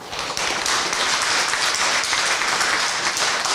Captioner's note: applause